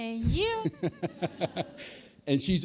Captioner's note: laughter